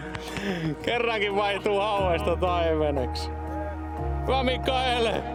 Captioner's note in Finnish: naurua